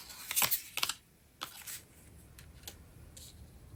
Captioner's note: drawing cards